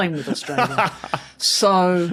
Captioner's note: laughs